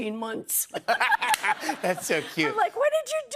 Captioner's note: laughs